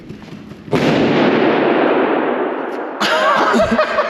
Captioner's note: balloon banging; both laughing